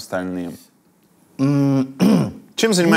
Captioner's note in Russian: откашливается